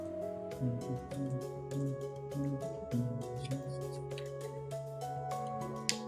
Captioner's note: humming along